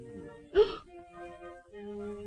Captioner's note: gasping